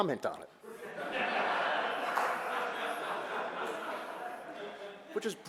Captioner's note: audience laughter